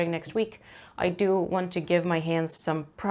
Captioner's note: none